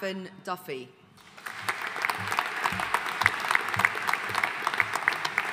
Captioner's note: audience applauding